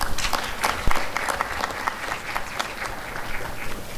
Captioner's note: applause and cheering